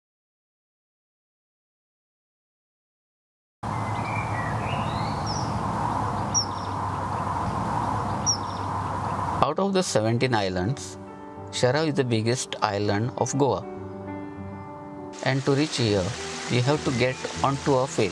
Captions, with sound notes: (wind blowing) (birds singing) - Out of the 17 Islands, Chorao is the biggest Island of Goa and to reach here, you have to get onto a ferry.